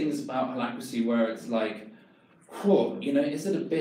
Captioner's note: exhales loudly